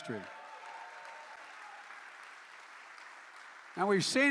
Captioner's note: applause